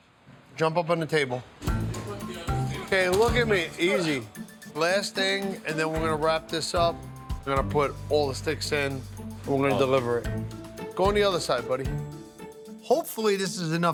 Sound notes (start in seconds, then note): 2.8 foot thumping